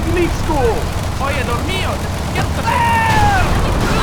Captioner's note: speaking in foreign language